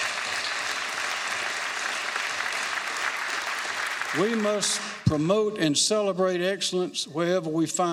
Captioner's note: applause